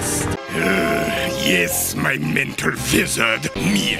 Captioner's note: sigh